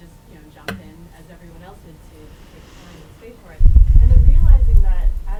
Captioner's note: voice muffled